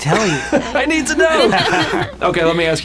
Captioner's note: laughing